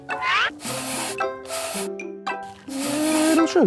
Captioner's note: sugar sifting